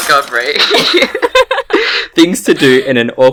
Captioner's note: both laugh